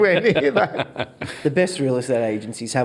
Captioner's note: all laugh